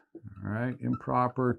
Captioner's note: marker squeaking